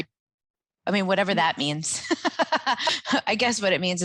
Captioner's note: laughing